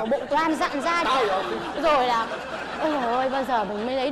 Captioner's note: laughing